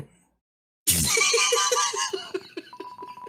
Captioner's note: laughs